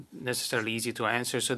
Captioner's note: speaking French